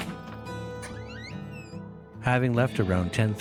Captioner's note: door creaking